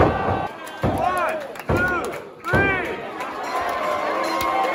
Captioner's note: crowd cheers